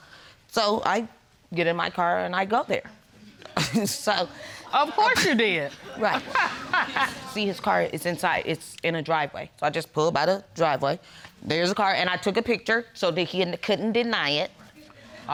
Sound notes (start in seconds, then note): 3.7 chuckles; 5.9 laughs